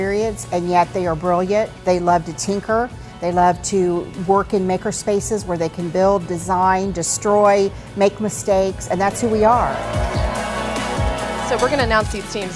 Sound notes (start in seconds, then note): 9.0 crowd cheering; 9.9 uplifting music